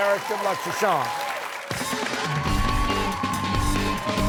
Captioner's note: applause